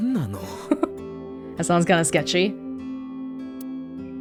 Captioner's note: chuckles